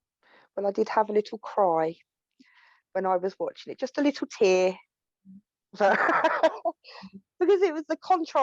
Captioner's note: laughs